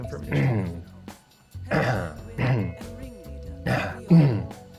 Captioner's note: clearing his throat